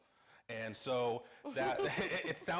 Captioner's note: laughing